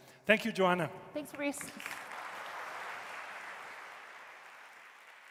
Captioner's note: audience applauding